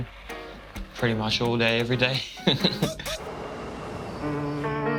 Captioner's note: laughs